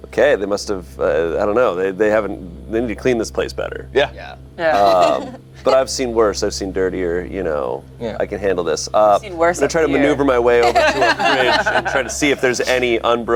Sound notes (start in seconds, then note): 4.6 laughs; 9.6 group laughs